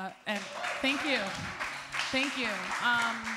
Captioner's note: applause